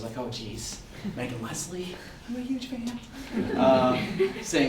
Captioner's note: audience laughter